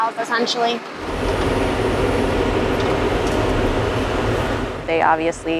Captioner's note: machine noise